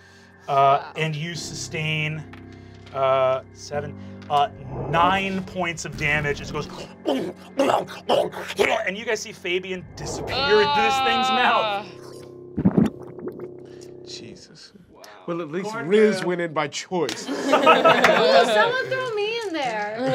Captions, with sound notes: And you sustain, 7, 9 points of damage, it just goes (sloppy chomping) and you guys see Fabian disappear into this thing's mouth. (swallowing) - Well, at least Riz went in by choice. - Ooh, someone throw me in there.